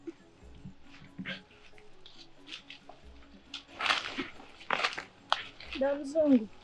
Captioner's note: leaves rustling